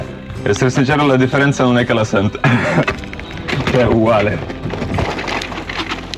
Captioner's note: speaking Italian